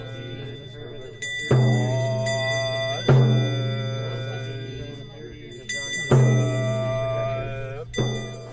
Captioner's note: chanting